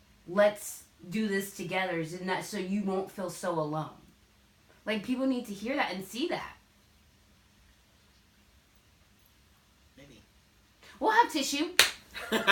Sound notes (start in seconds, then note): 12.2 laugh